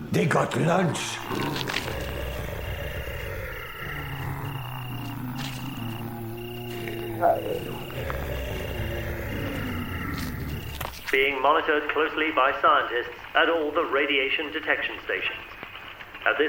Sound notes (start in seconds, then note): 1.8 zombies growling; 5.4 zombie moaning